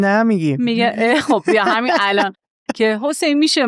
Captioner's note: laughs